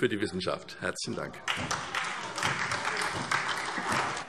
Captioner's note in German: Beifall SPD